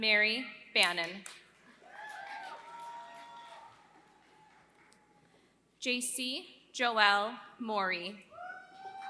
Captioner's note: applause; applause